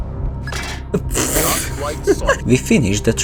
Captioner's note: laughing